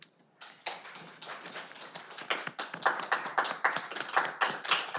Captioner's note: audience applauding